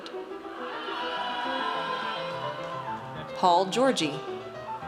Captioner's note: audience cheers